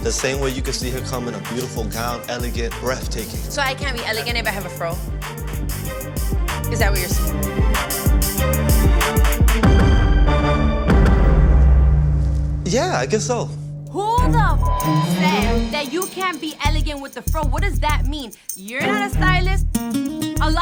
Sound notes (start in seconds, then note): 8.5 tense music; 14.2 beep